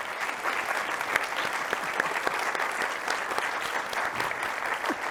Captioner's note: audience applauding